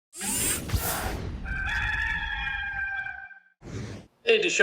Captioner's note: screen Whir-ring Sound; gamecock rooster crows